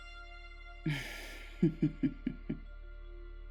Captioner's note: ominous chuckle